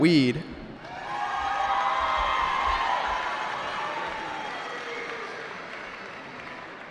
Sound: cheering

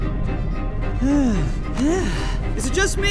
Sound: groaning

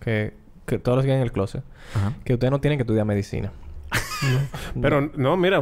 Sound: laughs

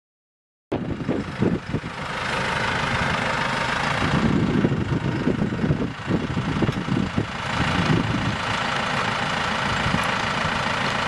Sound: silence; engine running

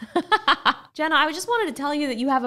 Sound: laughing

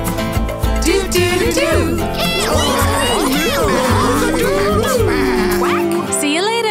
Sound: animal noises

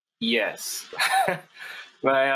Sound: chuckles

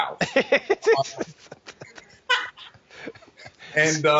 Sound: laughing

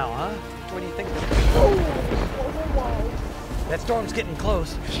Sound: thunder claps

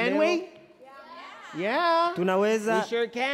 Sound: speaking foreign language

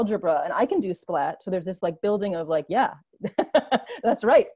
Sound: laughs

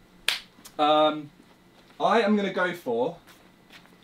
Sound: claps

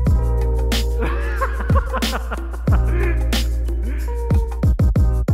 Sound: laughing

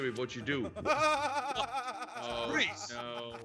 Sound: laugh

